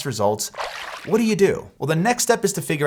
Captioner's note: water splashes